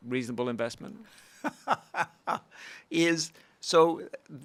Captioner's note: laughing